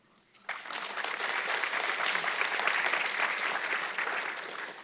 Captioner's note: audience clapping